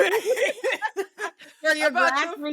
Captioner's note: laughing